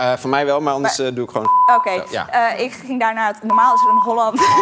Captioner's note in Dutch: piep